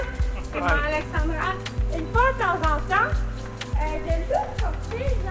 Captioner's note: speaks in foreign language